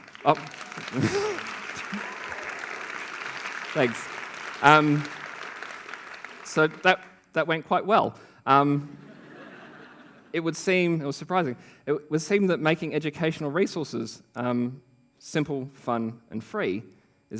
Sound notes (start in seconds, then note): 0.0 applause; 8.9 laughter